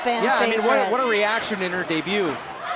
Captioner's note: fans chanting